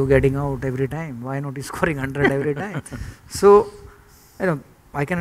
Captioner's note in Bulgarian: смях